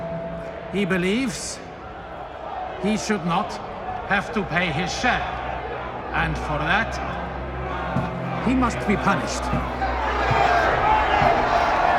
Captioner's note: cheering